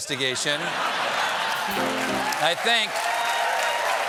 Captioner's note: laughter; piano riff; cheers and applause